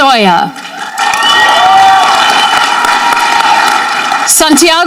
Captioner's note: audience cheering